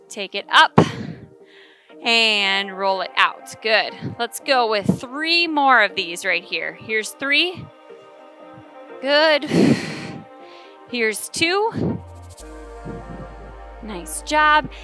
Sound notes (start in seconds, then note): 9.4 exhales